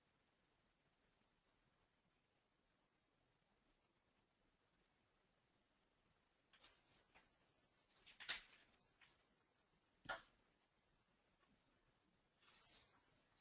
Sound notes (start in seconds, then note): none